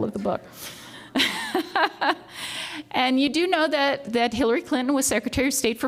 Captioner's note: laughs